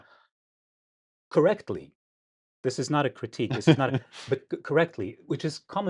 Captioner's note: laughs